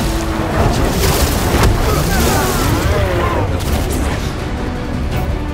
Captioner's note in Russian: Крик